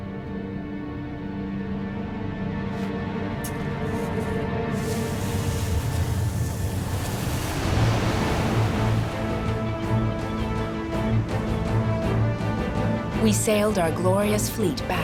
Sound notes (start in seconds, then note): 4.6 sand scraping; 7.7 suspenseful music; 7.7 waves whooshing